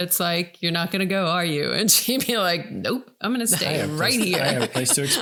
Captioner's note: laughing